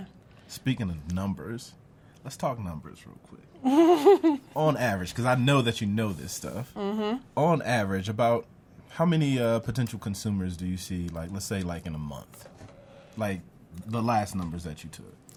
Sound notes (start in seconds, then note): 3.6 laughs